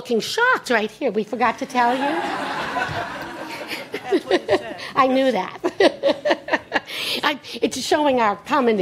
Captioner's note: laughter